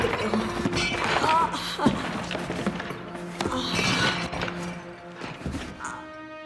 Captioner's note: crashing